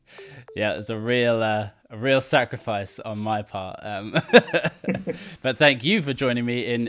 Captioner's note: laughing